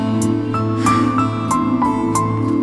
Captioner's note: Tipsy exhales